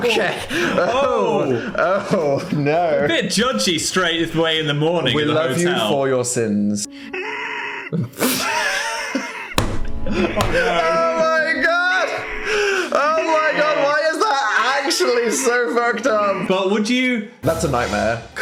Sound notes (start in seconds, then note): 7.1 muffled screaming; 7.8 Dan and Phil laugh